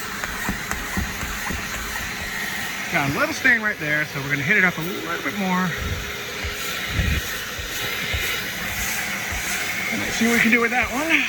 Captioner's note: whirring